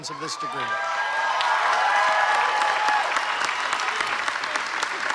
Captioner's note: applause